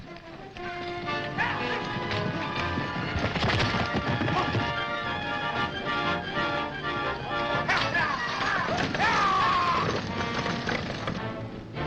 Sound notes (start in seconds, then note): 2.1 White Robes shouting; 4.4 suspenseful music; 8.5 White Robes shouting